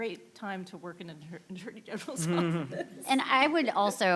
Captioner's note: laughs